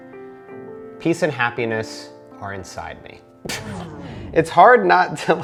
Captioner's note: laughs